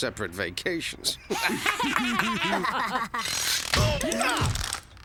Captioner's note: laughing